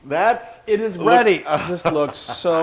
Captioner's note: laugh